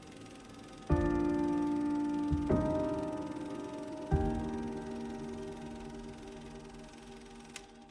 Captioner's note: piano music building; projector clicks